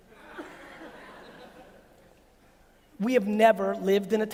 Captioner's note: audience laughs